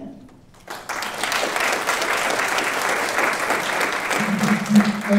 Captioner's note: audience applauding